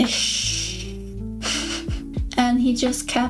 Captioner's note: chuckles in pain